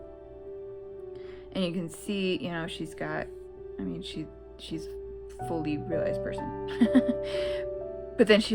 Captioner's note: laugh